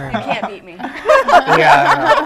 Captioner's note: laughter